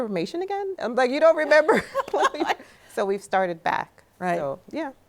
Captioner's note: both laughing